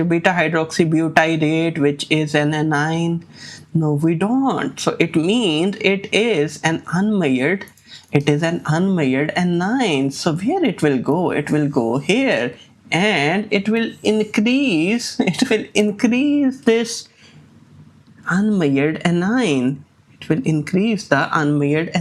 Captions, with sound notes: beta-hydroxybutyrate which is an anion? No, we don't. So it means it is an unmeasured, it is an unmeasured anion. So where it will go? It will go here and it will increase, [chuckles] it will increase this Unmeasured anion. It will increase the unmeasured